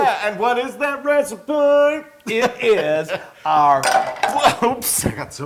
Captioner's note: laugh